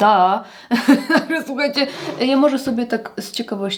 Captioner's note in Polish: śmiech